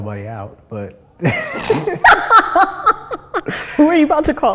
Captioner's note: both laugh